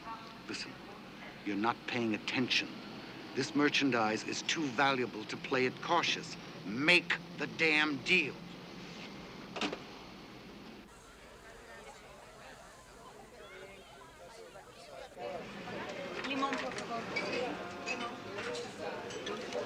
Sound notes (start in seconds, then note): 11.2 indistinct chatter